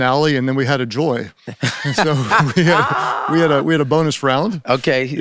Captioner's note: laughs